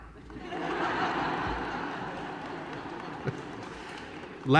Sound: laughter

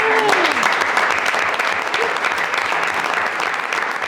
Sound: audience applauds

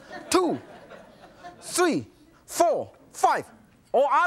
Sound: normal voice

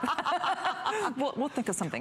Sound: laughter

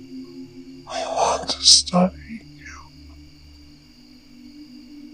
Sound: distorted deep voice

